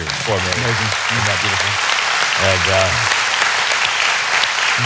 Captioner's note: audience applauding